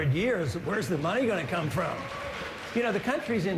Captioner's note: applause